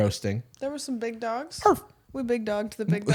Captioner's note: barks